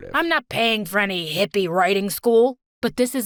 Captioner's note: none